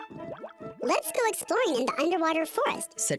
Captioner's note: high-pitched Voice